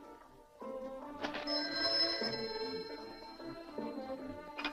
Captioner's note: phone rings